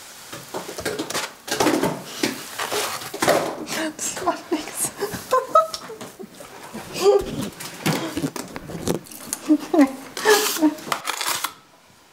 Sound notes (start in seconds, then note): 3.7 laughing